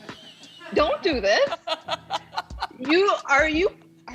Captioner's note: laughter